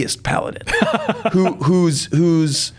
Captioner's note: laughs